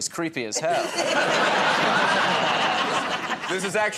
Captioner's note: laughter